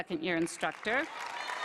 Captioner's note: applause